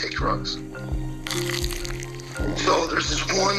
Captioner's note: Crunch